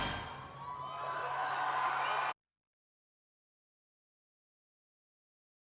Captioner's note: applause and cheering